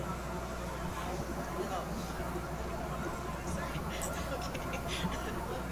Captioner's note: interviewer speaks away from mic